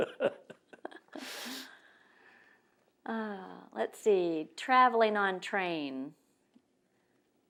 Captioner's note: laugh